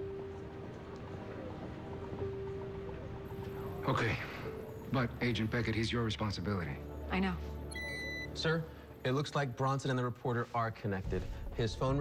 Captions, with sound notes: HE MIGHT BE AN ASSET. OKAY. BUT, AGENT BECKETT, HE'S YOUR RESPONSIBILITY. I KNOW. (computer beeps) SIR, IT LOOKS LIKE BRONSON AND THE REPORTER ARE CONNECTED.